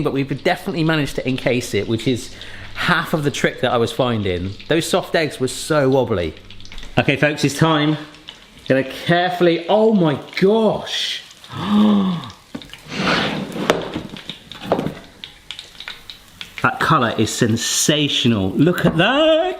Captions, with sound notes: but we've definitely managed to encase it, which is half of the trick that I was finding. Those soft eggs were so wobbly. Okay, folks, it's time, gonna carefully, oh my gosh (sighs). (board scraping) That colour is sensational, look at that.